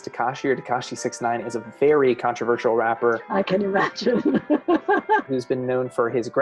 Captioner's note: laughs